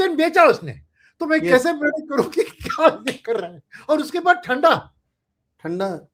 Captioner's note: laughs